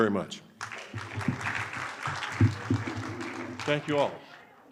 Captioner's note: audience applauding